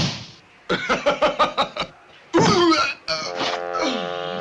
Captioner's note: يضحك